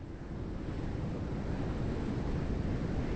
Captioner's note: wind blows